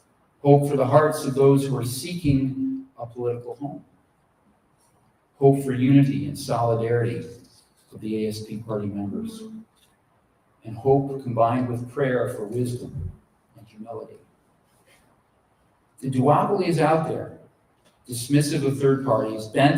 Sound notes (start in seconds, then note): none